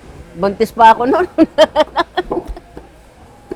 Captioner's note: laughs